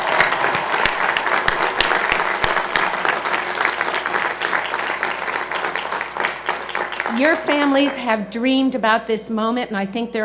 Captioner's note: cheers and Applause